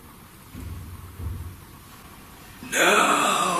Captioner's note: footsteps thudding